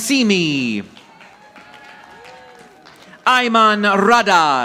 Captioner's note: audience applauding